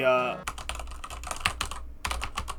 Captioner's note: typing